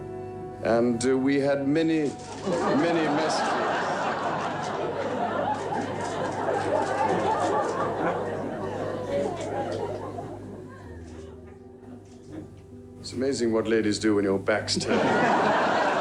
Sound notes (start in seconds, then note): 3.3 crowd laughing; 5.5 camera shutters clicking; 6.7 crowd laughing; 14.8 crowd laughing